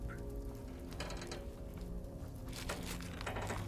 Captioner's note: chair creaking; bag crinkling